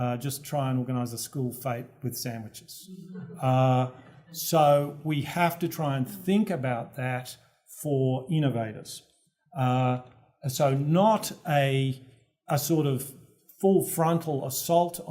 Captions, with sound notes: Just try and organize a school fair with sandwiches. [LAUGH] >> So we have to try and think about that for innovators. So not a sort of full-frontal assault